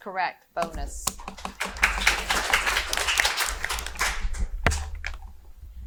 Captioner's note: audience applauding